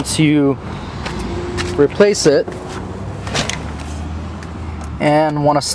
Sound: shuffling

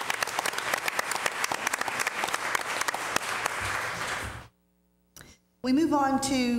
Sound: applause

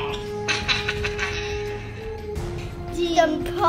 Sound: laughs

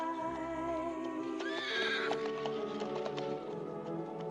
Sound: horse neighs

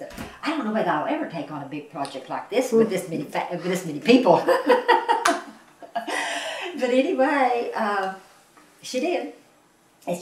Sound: laughs

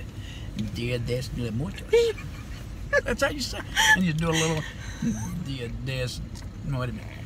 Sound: laughter

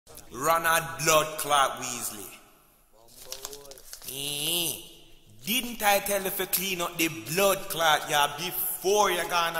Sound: thick Jamaican Accent

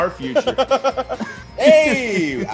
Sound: laugh

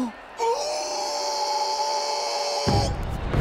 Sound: gasping; howling in pain

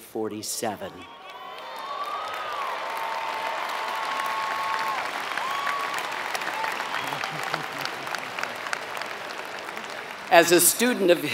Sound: applause

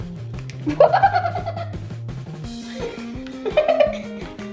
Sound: laughing

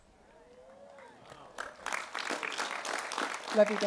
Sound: applause

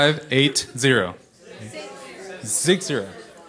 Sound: voiceover

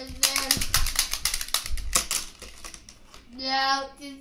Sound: clapping sounds

